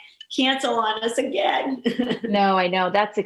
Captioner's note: chuckling